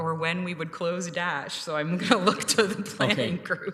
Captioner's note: chuckling